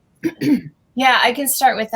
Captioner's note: clears throat